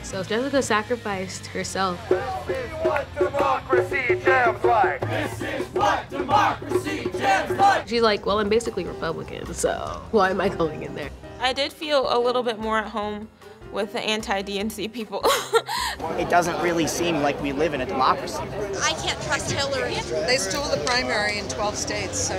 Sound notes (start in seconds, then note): 5.0 crowd